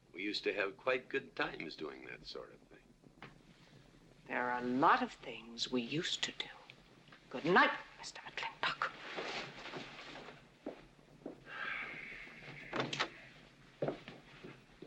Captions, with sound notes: We used to have quite good times doing that sort of thing. - There are a lot of things we used to do. Good night, Mr. McLintock. (sighs) (door opens)